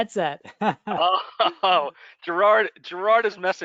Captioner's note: laughter